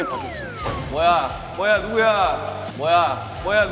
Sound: door opens

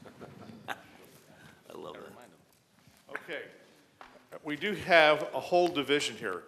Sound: laughter

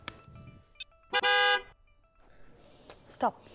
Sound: car honking

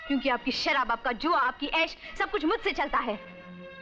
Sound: none

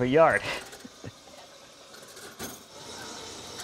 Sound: laughs

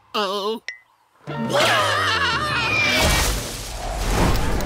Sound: screaming

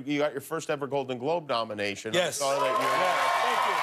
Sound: cheers and applause

